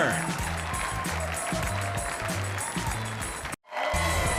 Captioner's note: audience cheering